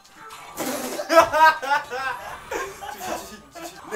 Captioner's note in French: Rires